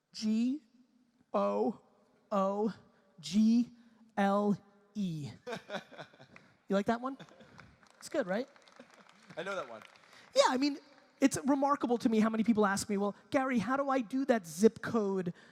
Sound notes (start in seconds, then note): 5.5 audience laughter